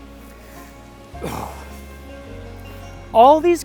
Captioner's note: groom exhales